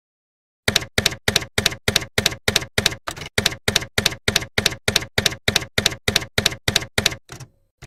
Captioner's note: typewriter keys clacking